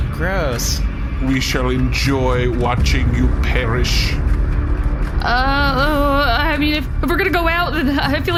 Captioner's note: nervous